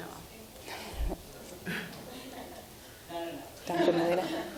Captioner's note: laughing